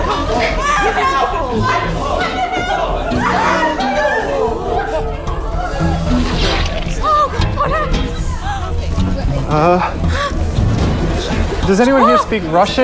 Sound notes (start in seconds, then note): 9.9 gasping